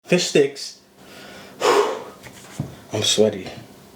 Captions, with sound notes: - Fish sticks. (exhales) I'm sweaty.